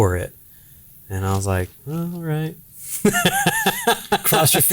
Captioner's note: laughing